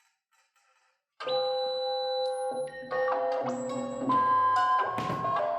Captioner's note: computer noises and music